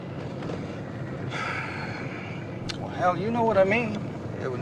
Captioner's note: sighs